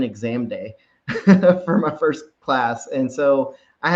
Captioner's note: chuckles